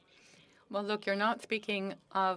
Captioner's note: speaking FRENCH